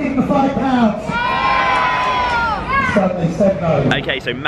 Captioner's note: crowd cheers